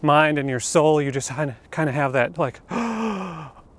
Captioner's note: long gasp of surprise